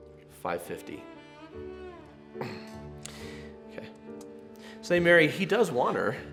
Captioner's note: grunt